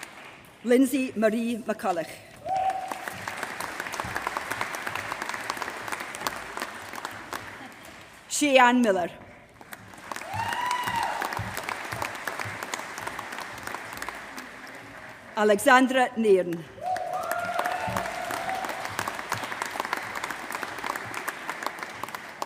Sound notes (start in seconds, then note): 0.0 applause; 2.3 applause; 16.8 applause